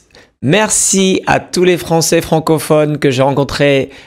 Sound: speaks French

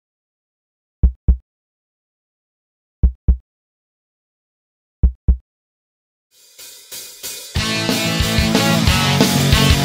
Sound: heartbeat

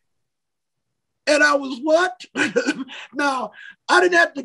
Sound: laughs

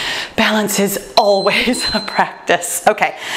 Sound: timer beeps

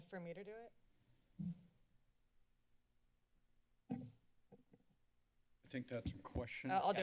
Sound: silence

